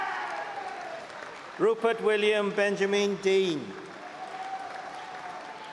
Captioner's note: cheering; applause and cheering